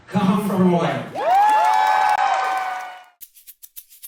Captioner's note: cheering